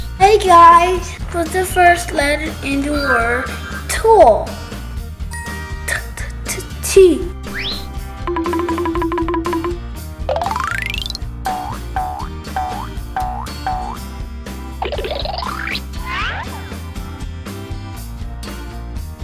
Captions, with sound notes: Hey guys, what's the first letter in the word tool? (ding) T! (playful music)